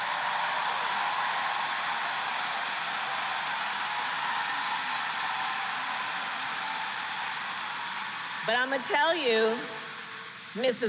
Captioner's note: applause